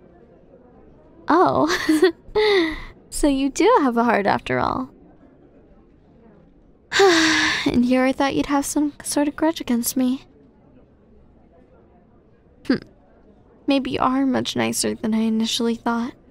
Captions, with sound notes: Oh? (laughs) So you do have a heart after all. (sigh) And here I thought you’d have some sort of grudge against me. Hmph, maybe you are much nicer than I initially thought.